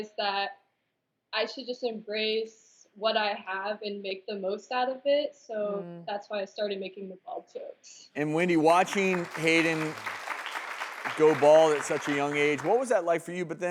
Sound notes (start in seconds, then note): 8.2 applause